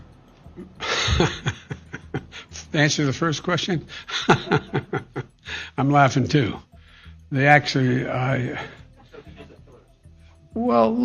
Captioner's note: laughter